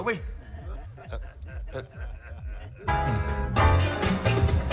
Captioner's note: laughter